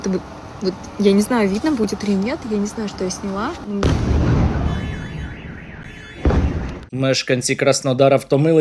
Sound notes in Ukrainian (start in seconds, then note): 3.8 вибух